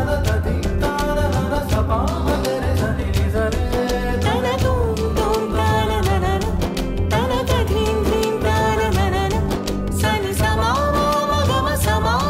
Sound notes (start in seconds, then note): none